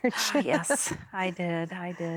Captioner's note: giggling; sighs